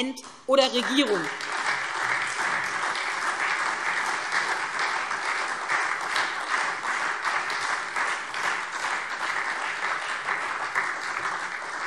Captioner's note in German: Beifall SPD und Freie Demokraten